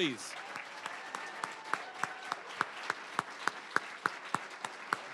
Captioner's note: applause, cheering; applause